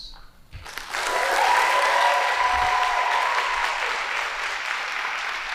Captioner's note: audience applauding